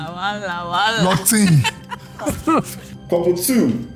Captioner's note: laughs